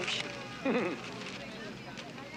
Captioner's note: chuckles